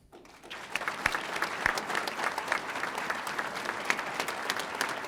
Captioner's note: audience applauding